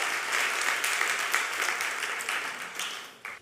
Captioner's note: applause